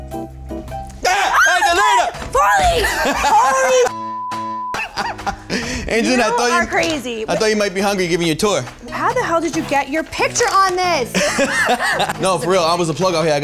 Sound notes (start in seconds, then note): 1.0 yells; 1.0 screams; 4.0 computer bleeps; 4.7 Pauly laughs; 11.1 Pauly laughs